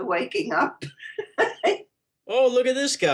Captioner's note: laughs